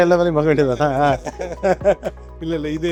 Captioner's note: laughs